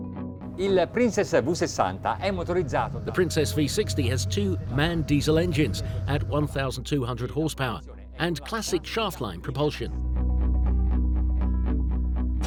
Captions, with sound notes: (speaking foreign language) The Princess V60 has two man diesel engines at 1,400 horsepower, and classic shaft-line propulsion.